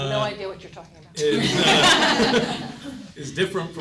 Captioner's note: audience laughing